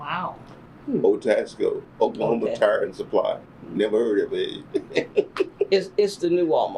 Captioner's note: laughs